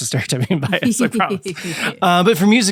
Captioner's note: both laughing